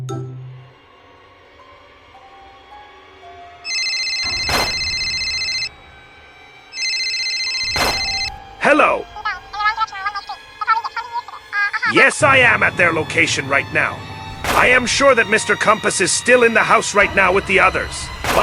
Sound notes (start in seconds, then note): 3.6 phone Ringing